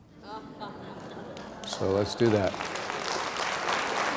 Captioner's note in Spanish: risas; aplauso